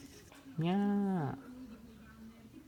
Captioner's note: japanese meow